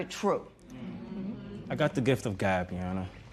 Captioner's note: spectators murmur